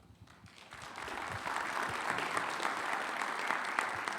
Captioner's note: audience applauds